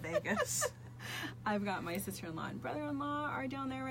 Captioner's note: laughs